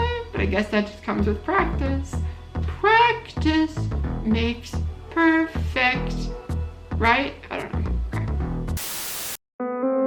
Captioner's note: static noise